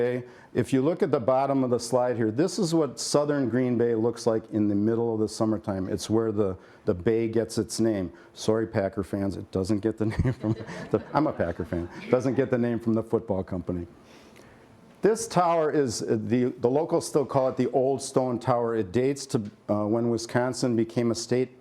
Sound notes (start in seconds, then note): 10.0 laughter